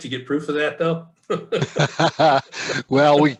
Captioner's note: laughing